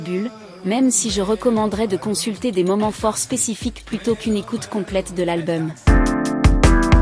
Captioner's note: foreign language